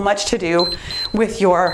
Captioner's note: timer beeps